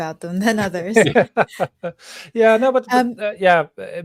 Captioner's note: laughing